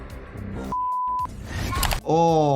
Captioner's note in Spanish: música de suspenso; pitidos